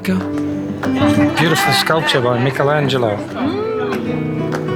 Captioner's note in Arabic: ممم